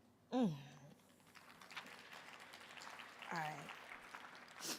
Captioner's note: audience applauding